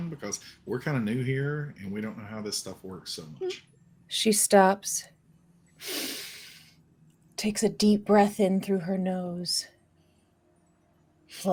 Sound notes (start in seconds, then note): 5.8 sniffs slowly